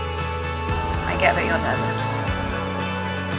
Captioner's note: voiceover